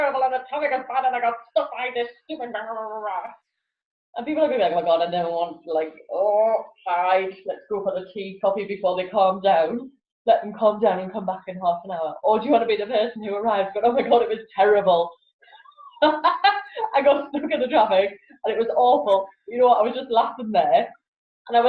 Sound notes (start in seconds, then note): 15.6 laughs